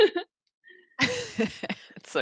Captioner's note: laughter